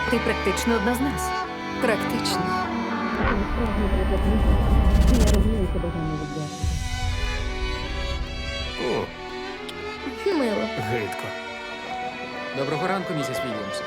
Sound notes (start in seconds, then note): 2.9 music distorts; 3.3 muffled chatter; 6.5 pleasant music continues